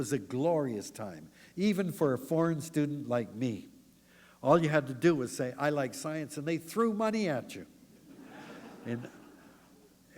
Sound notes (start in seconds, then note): 8.0 laughter